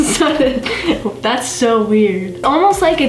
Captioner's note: laughs